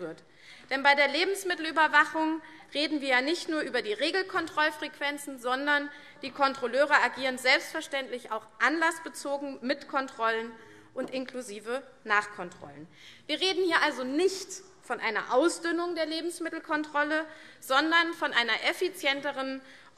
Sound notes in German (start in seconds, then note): none